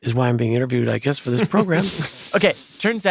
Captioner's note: laughs